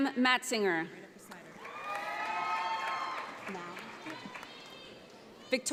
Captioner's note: audience applauds